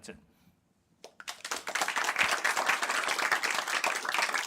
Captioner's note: applause